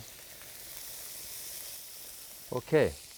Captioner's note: food sizzling